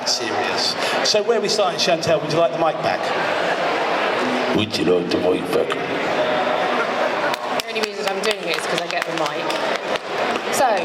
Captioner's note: applause